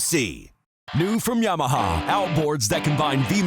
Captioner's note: voiceover